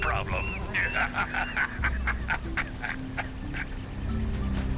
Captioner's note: samos laughs